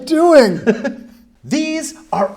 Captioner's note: laughs